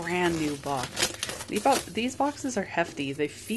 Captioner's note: delightful crinkly noise